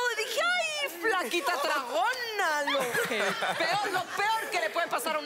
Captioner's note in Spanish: Risas